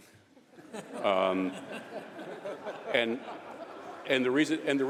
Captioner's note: laughter